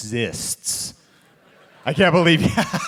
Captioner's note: audience laughing; laughs